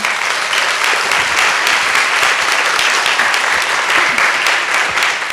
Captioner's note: sound of applause